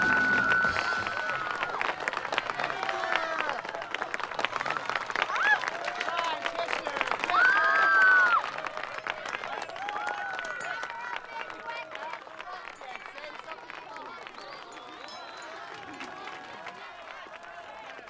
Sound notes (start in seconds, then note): 0.3 cheering; 7.3 screaming